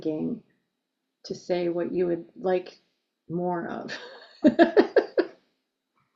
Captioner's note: laughs